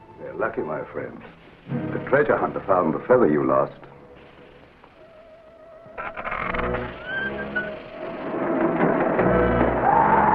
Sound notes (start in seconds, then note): 1.3 serpent hisses; 4.3 serpent hisses and rattles; 5.9 cage door squeaks; 6.0 lever creaking; 8.4 wings flapping; 9.8 serpent screeches